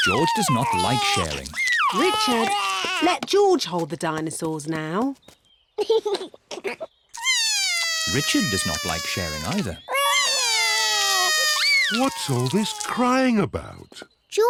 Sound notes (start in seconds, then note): 5.8 giggles; 7.1 cries; 9.9 both cry